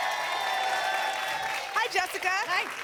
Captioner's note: applause